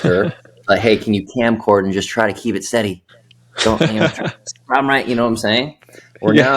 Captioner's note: risas